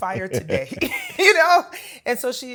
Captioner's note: laughs